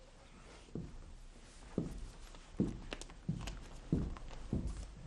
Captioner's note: footsteps exiting